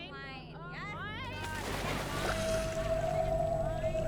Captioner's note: water splashing